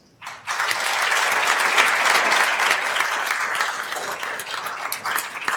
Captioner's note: attendees applauding